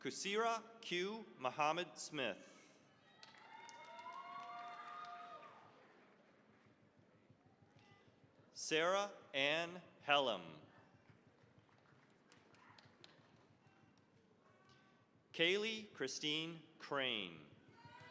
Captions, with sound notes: Khaysirah Q. Muhammad-Smith. (cheering, applause) Sarah Anne Hellem. (applause) Kaylee Christine Crane.